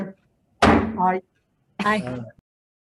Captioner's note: gavel bangs